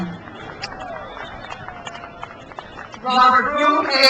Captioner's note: crowd cheers